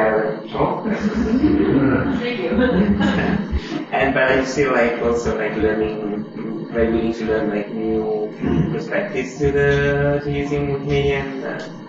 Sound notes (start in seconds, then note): 0.8 laughter; 2.3 laughs